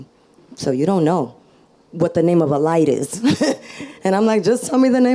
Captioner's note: laughs